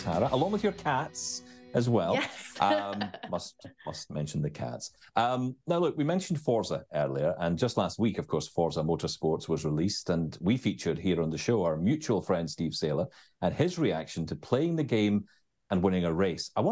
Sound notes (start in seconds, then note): 2.0 chuckles